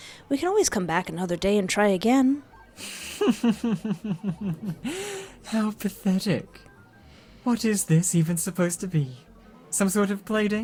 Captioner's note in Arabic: ضحك